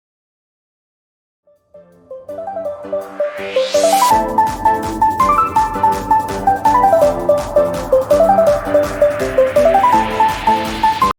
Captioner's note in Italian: Applauso